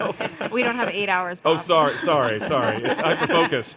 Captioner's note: panelists laughing